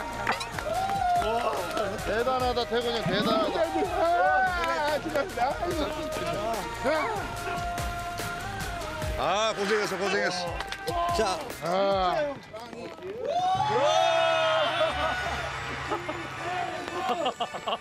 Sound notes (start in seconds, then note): 2.9 cheering